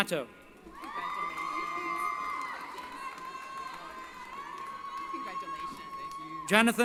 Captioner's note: cheering